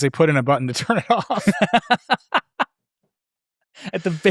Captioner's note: laughing